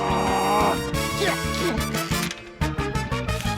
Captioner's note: grunts; strains